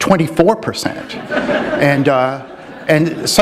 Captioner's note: laughter